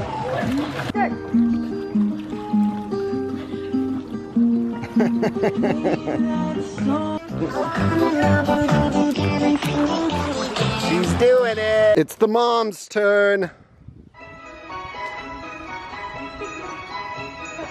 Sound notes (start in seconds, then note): 1.1 guitar playing; 4.8 man laughing; 4.9 upbeat music; 14.2 classical music starts